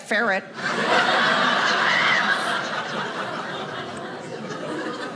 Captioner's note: audience laughing